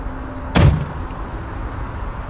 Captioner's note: car door closes